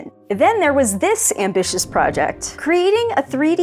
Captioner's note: whoosh